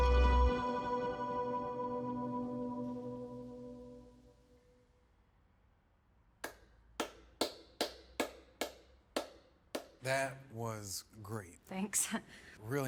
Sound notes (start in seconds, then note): 0.0 music fades; 6.4 hands clapping